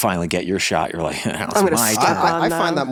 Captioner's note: sniggers